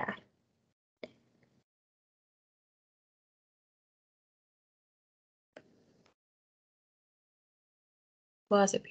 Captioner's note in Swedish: Tystnad